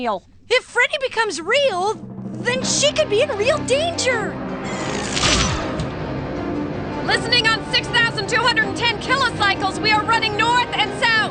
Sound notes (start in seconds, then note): 4.7 zapping sound